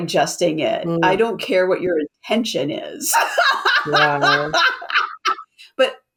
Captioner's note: laughs